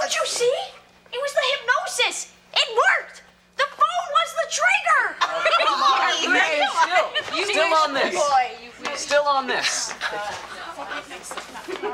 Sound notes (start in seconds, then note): 5.2 laughing